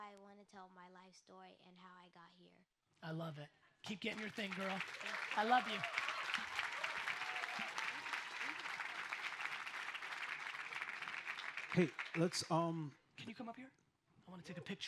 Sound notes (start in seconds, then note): 6.5 audience applauds